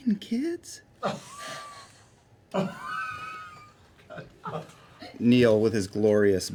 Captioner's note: laughter